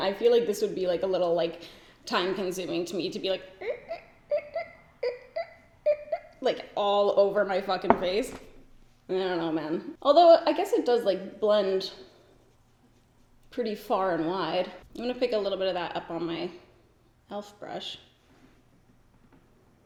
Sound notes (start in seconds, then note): 3.6 mimics squeaking